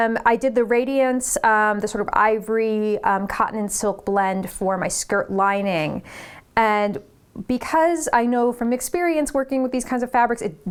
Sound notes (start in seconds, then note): none